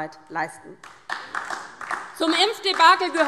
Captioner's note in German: Beifall DIE LINKE